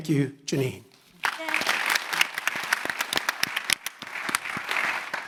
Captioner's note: audience applauding